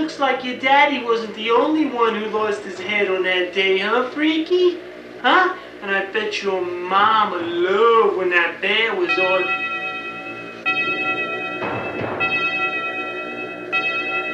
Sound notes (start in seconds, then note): 8.3 clock chimes